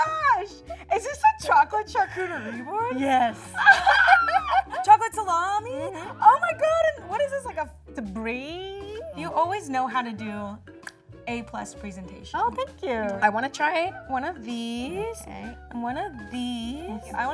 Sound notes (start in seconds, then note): 3.9 both laughing